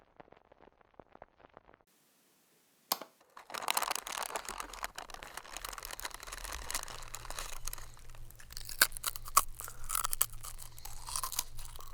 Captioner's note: sounds of chips crunching